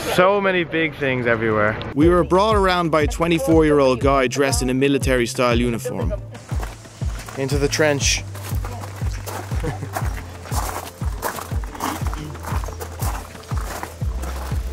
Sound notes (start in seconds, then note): 9.2 chuckles; 9.4 footsteps crunching on pebbles